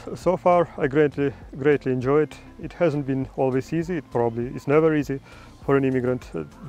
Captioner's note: none